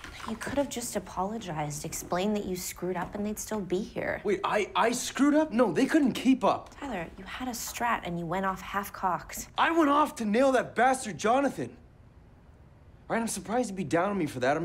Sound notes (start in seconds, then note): none